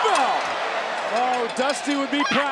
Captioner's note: Roxanne yelling; crowd cheering